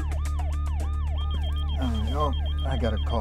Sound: beeping

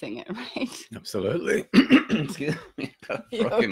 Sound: clearing throat

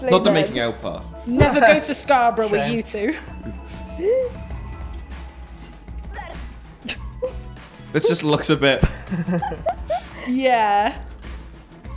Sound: gasp

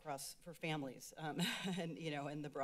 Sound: laughs

